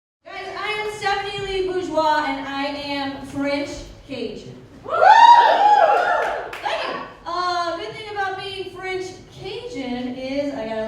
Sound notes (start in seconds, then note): 5.4 crowd applause